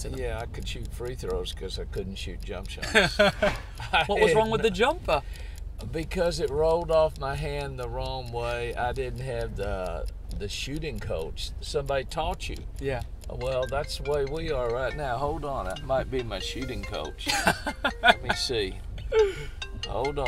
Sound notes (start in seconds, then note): 15.1 phone ringing